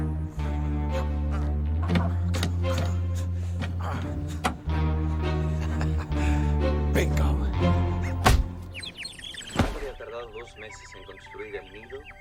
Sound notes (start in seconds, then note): 1.1 grunting; 4.2 clicks; 4.2 laughs; 7.8 birds chirping; 9.4 man speaking Spanish on TV